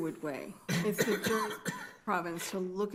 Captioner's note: attendee coughing